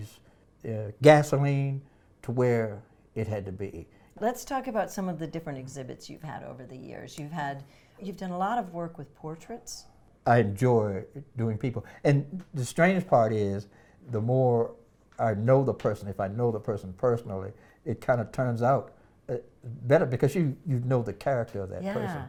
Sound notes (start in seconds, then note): none